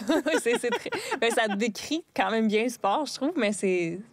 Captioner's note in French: rires